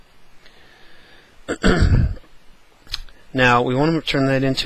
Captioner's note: cough